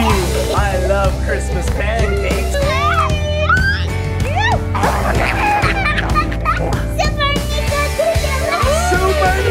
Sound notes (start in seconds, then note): 0.0 child laughing; 3.4 child laughing; 3.8 people shouting; 4.7 child laughing